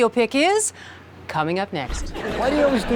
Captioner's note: audience chuckling